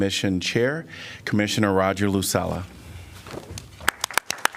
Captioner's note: applause